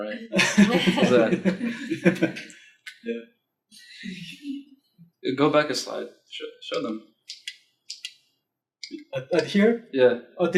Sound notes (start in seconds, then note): 0.0 laughs